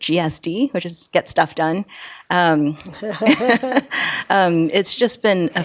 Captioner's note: laughing